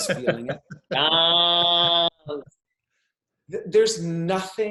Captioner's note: laughing